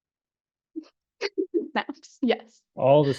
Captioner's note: chuckles